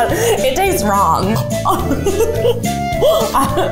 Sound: laughing; gags; laughing

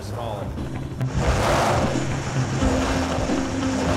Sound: car engine roars

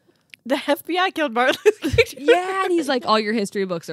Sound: laughs

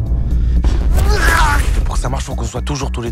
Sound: gémit

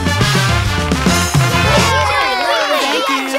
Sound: cheering

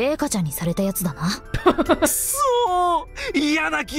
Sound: chuckles

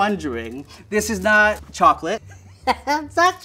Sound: laughs

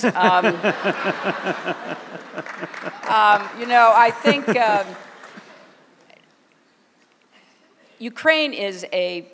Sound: laughter

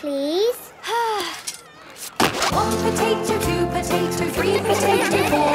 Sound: Belinda sighing; laughter

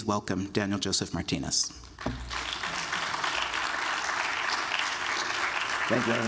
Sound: applause

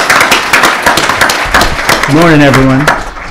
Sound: applause

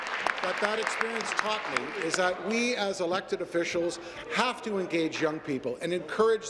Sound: applause

